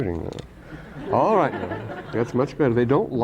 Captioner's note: laughter